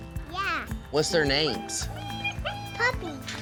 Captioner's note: puppies squealing